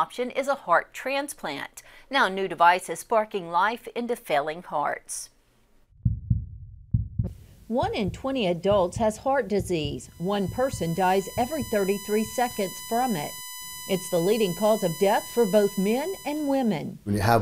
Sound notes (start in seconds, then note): 7.4 heart beating